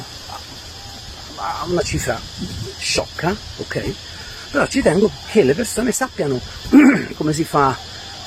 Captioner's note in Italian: schiarire la voce